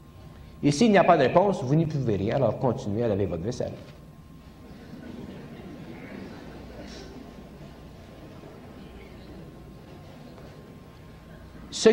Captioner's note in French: rires du public